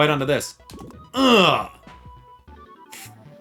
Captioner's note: grunts